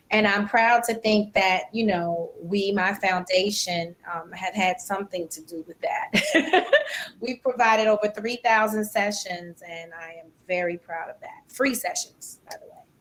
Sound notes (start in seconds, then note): 6.1 laugher